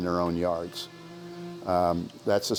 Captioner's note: birds chirping